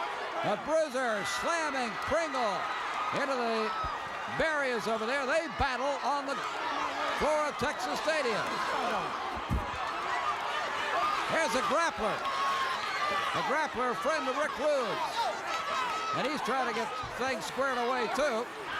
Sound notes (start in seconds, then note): 9.7 applause